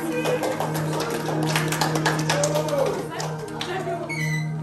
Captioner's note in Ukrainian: оплески